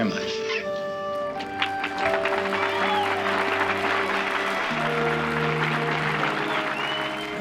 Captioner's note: cheering and applause